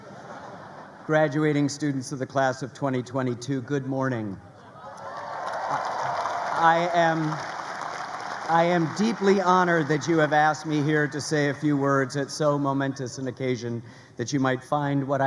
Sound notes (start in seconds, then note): 4.7 crowd cheering